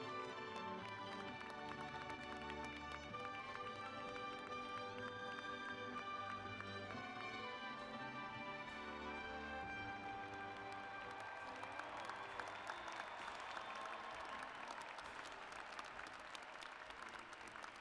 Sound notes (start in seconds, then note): 4.3 applause